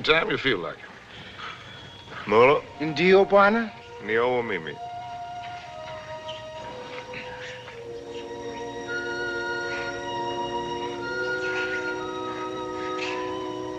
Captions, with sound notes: Come back anytime you feel like it. Molo. [ Both Speaking African Language ]